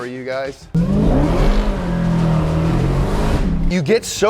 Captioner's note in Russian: двигатель вращается